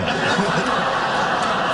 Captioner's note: laughing